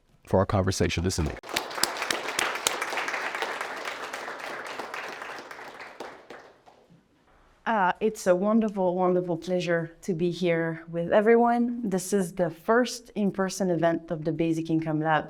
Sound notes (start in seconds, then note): 1.1 applause